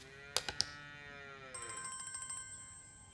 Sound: phone rings

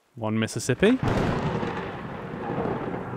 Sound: thunder

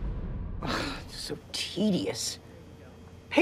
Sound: sighs

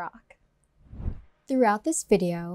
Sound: air whooshes

